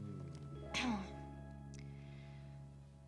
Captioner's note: clears throat